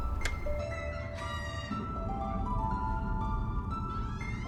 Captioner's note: door creaks